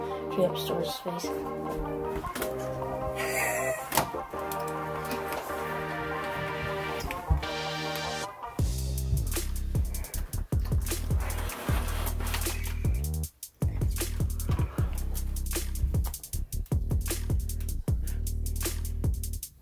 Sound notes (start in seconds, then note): 2.9 laughing